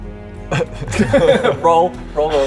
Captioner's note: wishful laugh